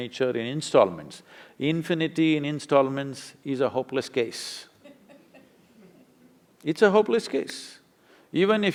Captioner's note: few laugh